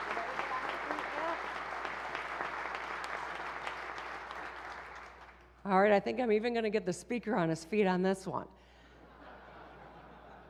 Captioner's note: applause